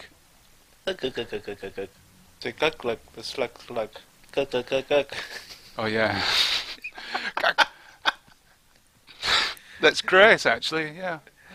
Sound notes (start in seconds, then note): 4.9 laughter